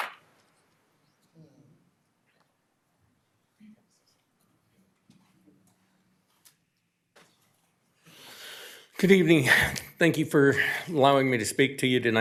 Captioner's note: applause